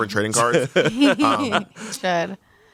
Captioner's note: everyone laughs